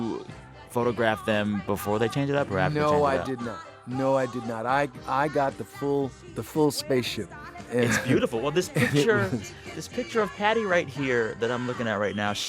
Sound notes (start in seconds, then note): 8.7 laughter